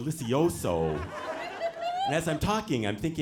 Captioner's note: audience laughing